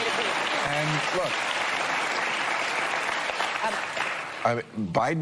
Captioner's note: applause